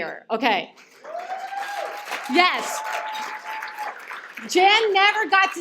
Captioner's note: cheers and applause